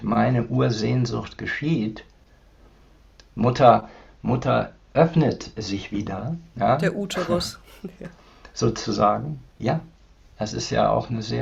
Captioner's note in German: gelächter